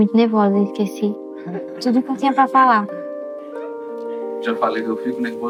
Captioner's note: people laughing